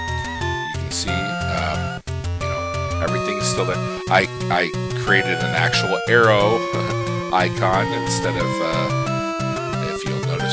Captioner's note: laugh